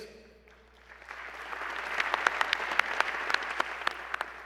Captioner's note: applause